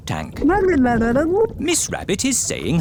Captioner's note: gurgling